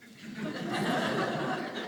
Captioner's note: audience laughing